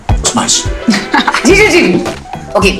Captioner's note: Poonam laughs